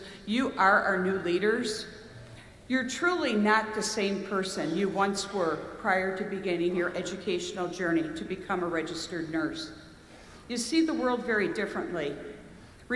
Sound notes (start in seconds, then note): none